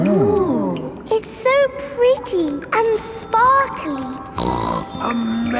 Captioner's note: snorts